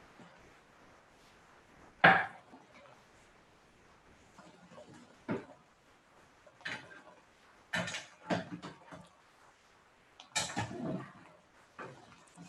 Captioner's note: silence